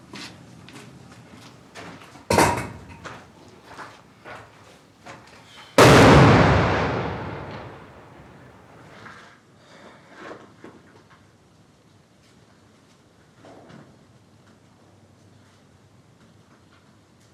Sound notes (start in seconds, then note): 2.3 door slams; 5.8 explosion bangs